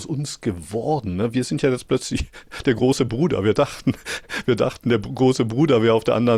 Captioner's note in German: gelächter